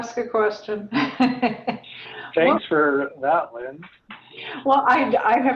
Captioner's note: laugh